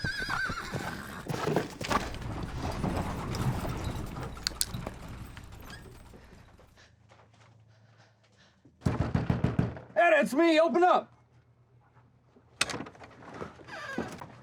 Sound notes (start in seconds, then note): 0.0 horse whinnying; 5.1 cocks pistol; 6.7 slow footsteps; 9.0 banging on door; 14.2 opens door, closes door